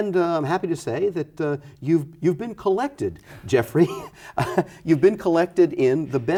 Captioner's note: laughs